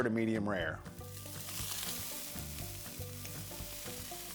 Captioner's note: pan sizzles